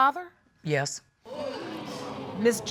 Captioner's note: audience gasps